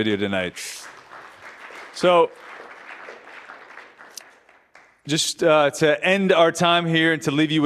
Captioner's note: applause